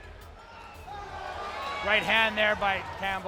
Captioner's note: crowd yelling